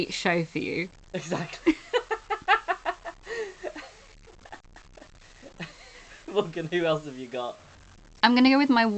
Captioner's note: laughing